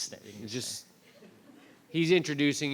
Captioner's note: audience laughs